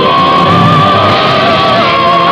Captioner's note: crash!